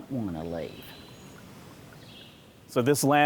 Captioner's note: birds chirping